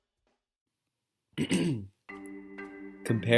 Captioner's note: clears throat